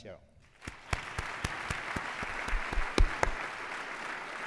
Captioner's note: applause